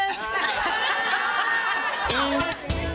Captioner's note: all laughing